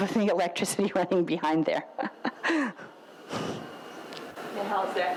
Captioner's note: laughs